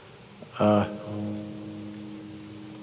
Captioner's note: none